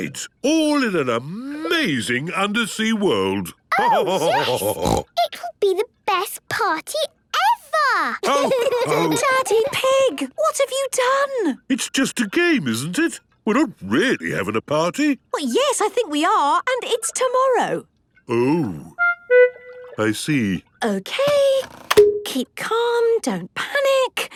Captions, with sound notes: all in an amazing undersea world. (laughter and snorting) - Oh, yes! It could be the best party ever! (laughter) - Daddy Pig! What have you done? - It's just a game, isn't it? We're not really having a party. - Yes, I think we are. And it's tomorrow. - Oh. I see. - Okay, keep calm, don't panic.